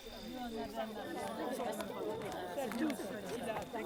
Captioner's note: voix de la foule